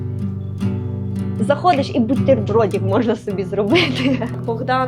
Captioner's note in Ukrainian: сміх